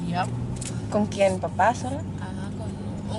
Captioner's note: speaking in foreign language